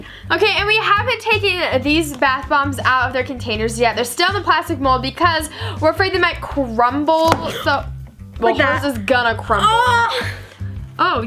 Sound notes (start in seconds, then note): 8.0 gasps